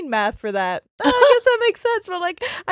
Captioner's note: laughs